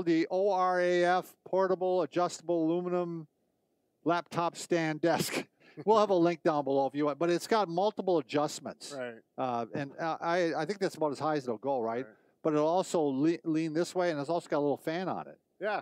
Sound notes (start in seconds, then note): 5.1 laughing